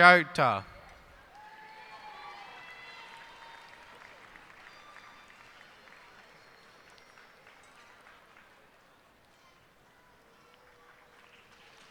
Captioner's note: cheers and applause